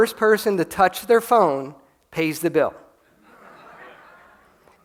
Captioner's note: laughter